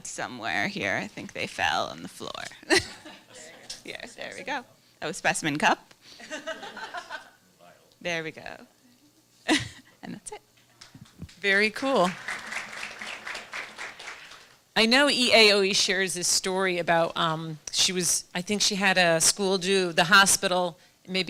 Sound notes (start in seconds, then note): 2.7 laughter; 6.2 laughter; 11.9 applause